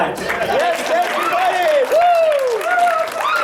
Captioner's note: cheering and applause